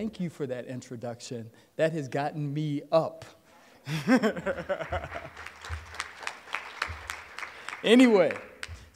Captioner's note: applause